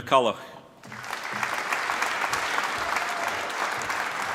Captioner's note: applause